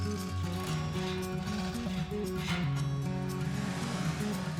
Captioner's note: chain rattling; water splashes